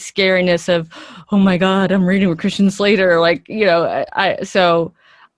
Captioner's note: gasp